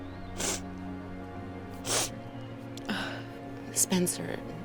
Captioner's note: sniffling